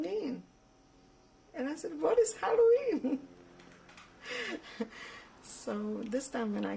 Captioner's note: laughs